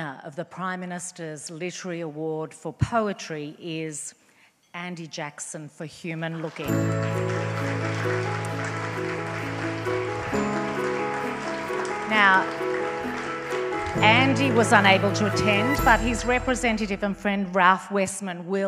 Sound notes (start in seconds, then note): 6.4 audience applauds; 6.9 bright inspirational music